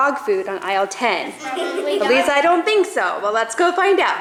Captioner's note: laughing